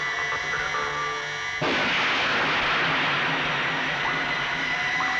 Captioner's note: gun fires